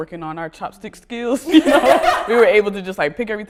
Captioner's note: laughter